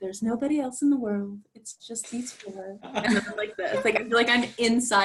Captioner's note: laughter